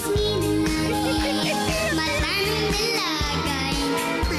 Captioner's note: chuckles